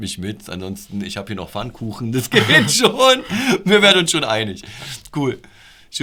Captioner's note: laughter